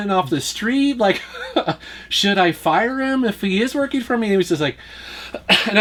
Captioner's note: laughs